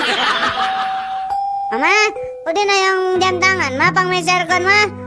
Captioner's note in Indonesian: tertawa